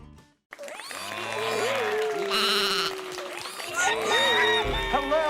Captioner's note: animals applauding